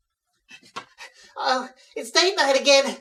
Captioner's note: panting, panicked